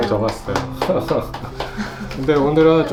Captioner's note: clapping